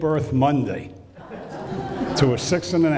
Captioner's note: laughing